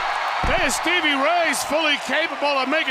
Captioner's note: crowd cheering